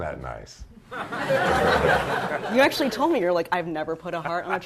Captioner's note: audience laughing